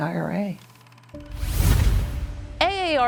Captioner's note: logo whooshes